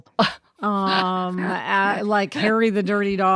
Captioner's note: laughs